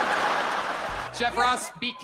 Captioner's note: audience laughing